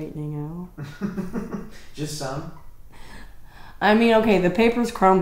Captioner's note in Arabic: ضحكة مكتومة